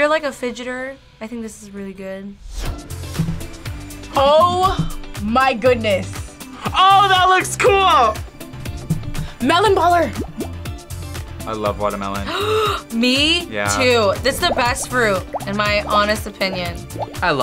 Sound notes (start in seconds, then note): 12.3 gasps